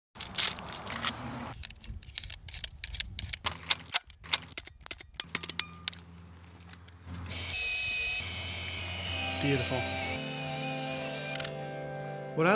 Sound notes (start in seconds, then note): 0.1 film wrapper crinkling; 1.8 film swishing; 3.5 film snapping; 4.6 camera pinging; 7.4 camera whirring; 10.6 inspirational music